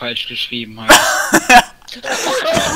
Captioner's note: laughs; laugh